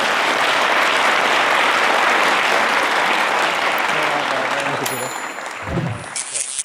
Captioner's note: applause